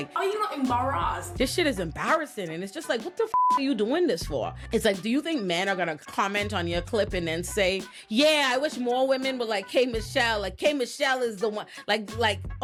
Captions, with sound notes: Oh, you're not embarrassed. This shit is embarrassing. And it's just like, what the (beep) are you doing this for? It's like, do you think men are gonna comment on your clip and then say, yeah, I wish more women were like, K. Michelle, like K. Michelle is the one, like, like,